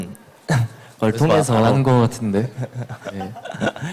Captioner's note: laughs jokingly